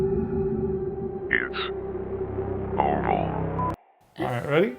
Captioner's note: digital beeping